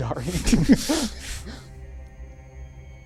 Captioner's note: laughing